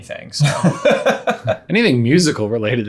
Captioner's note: laughing